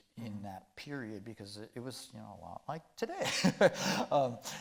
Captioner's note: chuckling